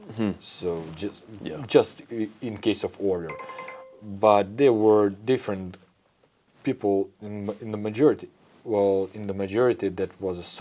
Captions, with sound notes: Mm-hmm. So just- Yeah just i- in case of order. [phone pings] But there were different people in m- in the majority. Well, in the majority, that was a